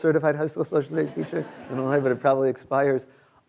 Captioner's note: students laughing